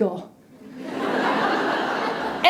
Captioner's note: laughter